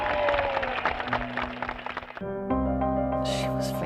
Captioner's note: applause